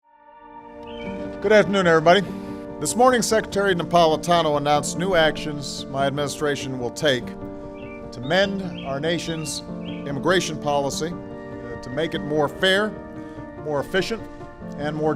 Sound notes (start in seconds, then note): 0.2 gentle music; 0.8 birds chirping